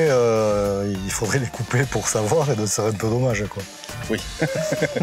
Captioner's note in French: rires